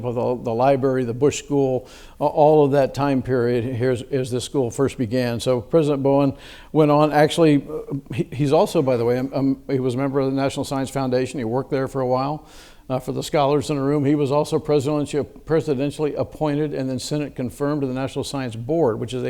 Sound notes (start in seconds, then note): none